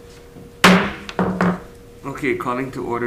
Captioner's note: gavel bangs